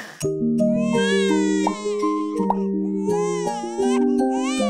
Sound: baby crying

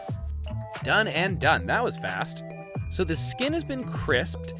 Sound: bell dings

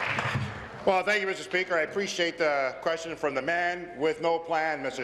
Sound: applause

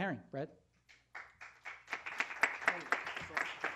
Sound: applause

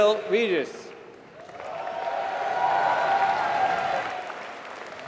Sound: applause

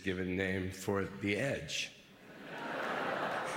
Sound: laughter

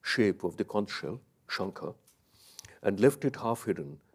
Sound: speaks in a foreign language

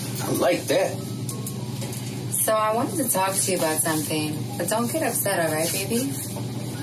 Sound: none

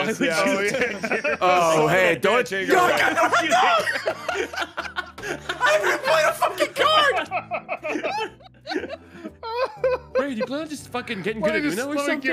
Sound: screams; laughs

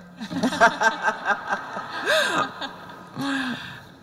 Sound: laughter

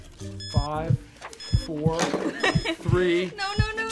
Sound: clock beeps

